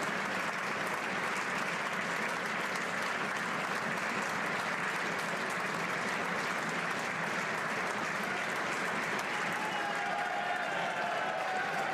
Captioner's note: applause